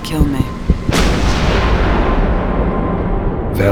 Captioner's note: gunshot, thunder